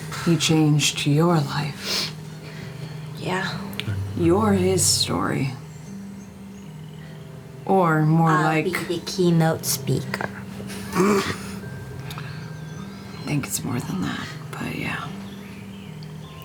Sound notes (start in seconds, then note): 11.6 snorting